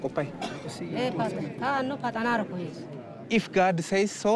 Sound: speaking foreign language

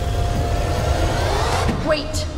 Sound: zapping

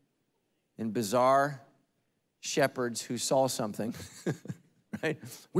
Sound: laughing

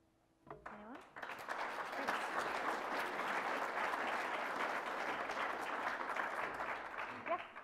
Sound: clapping

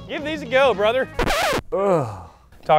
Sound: radio scratching

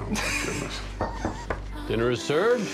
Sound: both laugh; knock on door

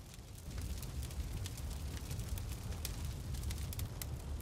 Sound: flames roaring and crackling

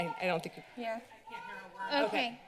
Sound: protester shouting

